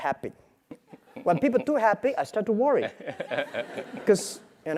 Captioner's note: laugh